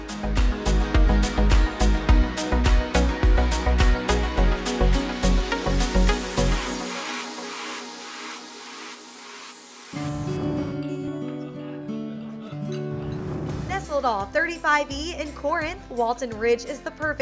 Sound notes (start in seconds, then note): 1.6 whoosh